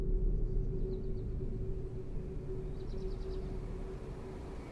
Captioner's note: birds chirping